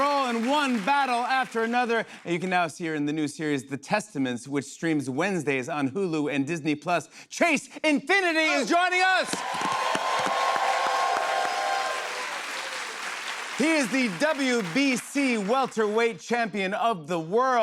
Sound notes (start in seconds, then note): 9.0 cheers and applause